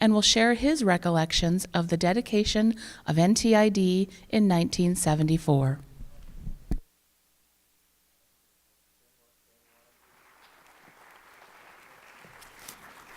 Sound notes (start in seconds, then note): 9.7 applause